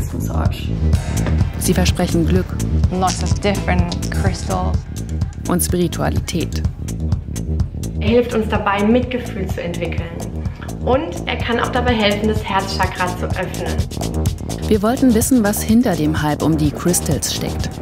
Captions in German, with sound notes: Sie versprechen Glück. (englisch:) Und Spiritualität. Er hilft uns dabei, Mitgefühl zu entwickeln. Und er kann auch dabei helfen, das Herz-Chakra zu öffnen. Wir wollten wissen, was hinter den Hype um die Crystals steckt